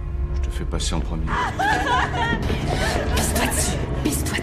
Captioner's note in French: pleurs